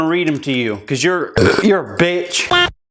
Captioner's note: burp